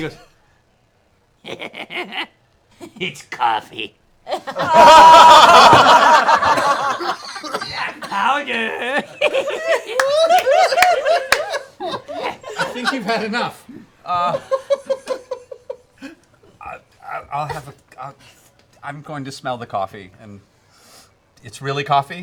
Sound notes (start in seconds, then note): 4.3 laughter; 8.4 cackles; 8.5 laughter